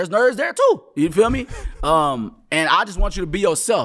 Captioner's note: laughing